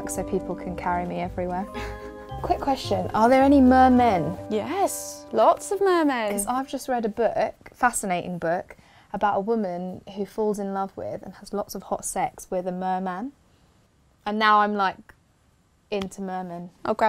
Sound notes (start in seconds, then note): none